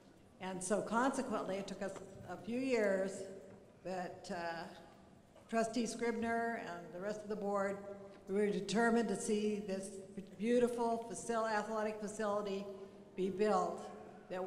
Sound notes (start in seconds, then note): none